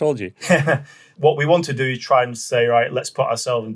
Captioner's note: laughs